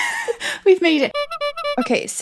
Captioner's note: clown noises